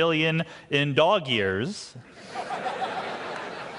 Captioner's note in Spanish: Risas